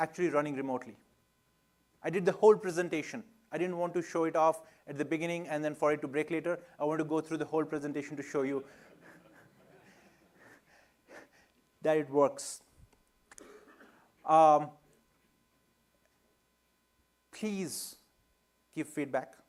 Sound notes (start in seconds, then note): 8.6 laughter